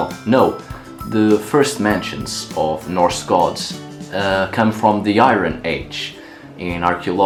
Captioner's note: aah